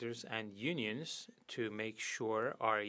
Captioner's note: speaking French